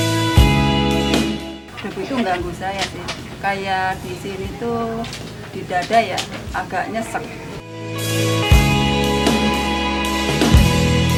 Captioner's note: asbestos Worker Voice